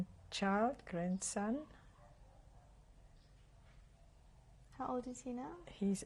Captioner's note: pauses for 3 seconds